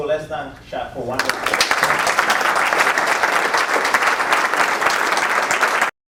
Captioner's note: applause